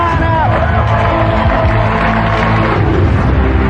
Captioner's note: cheering and applause